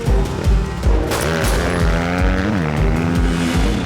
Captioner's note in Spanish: Disparos